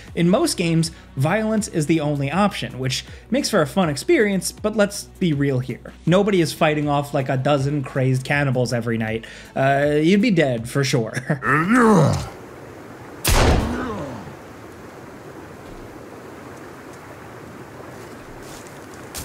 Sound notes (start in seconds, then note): 11.4 cannibal growling; 13.2 gunshot fires